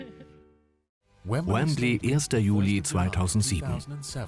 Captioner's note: voiceover